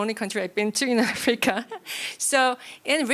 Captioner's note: laughs